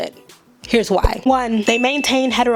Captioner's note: bell rings